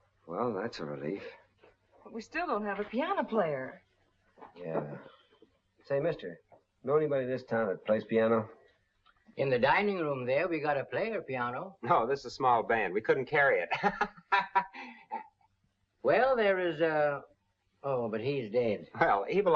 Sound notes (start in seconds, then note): 13.7 laughs